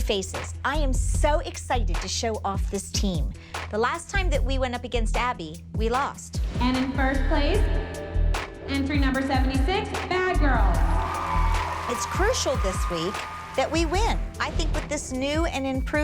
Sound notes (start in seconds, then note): 11.1 applause